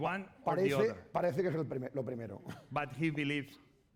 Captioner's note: speaking spanish